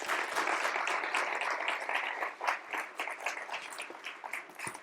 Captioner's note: applause